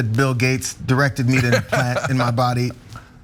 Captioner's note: laugh